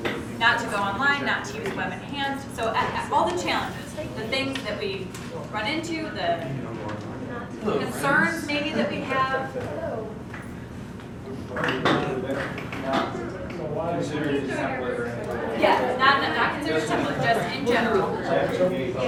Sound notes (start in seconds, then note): 11.4 background Discussion